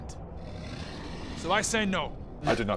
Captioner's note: disappointed noises